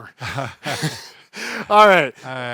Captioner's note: both chuckle